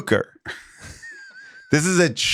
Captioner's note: Rob chuckles